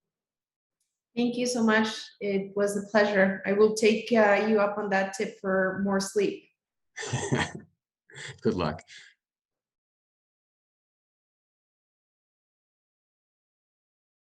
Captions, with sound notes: - Thank you so much. It was a pleasure. I will take you up on that tip for more sleep. - (laughs) Good luck.